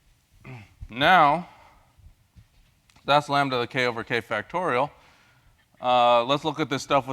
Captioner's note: cough